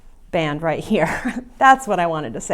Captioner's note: laughs